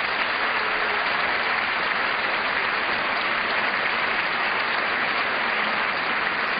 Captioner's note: applause